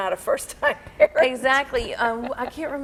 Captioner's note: laughing